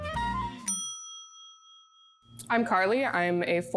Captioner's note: bell rings